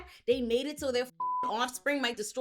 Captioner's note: beep